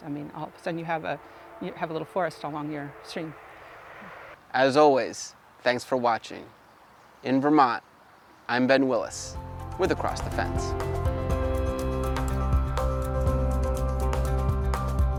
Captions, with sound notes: I mean, all of a sudden you have a little forest along your stream. (traffic droning) - As always, thanks for watching. In Vermont, I'm Ben Willis with Across The Fence. (upbeat music)